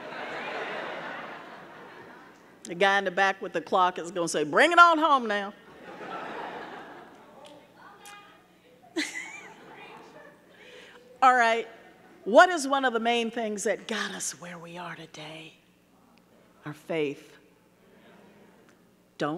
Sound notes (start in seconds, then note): 0.0 audience laughing; 5.7 audience laughing; 8.8 chuckles